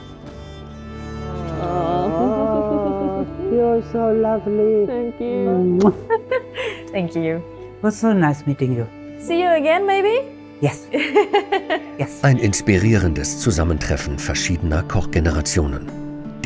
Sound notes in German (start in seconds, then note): 1.2 Beide seufzen und lachen; 5.7 Kuss-Geräusch